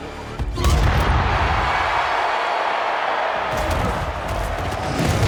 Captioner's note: spectators cheering